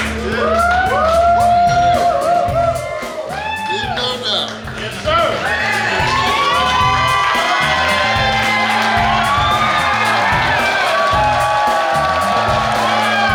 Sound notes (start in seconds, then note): 0.1 cheering; 6.4 cheering